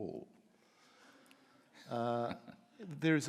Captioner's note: audience laughing; laughs